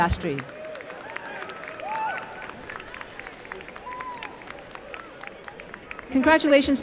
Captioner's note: applause